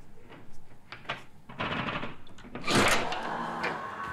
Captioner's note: door scraping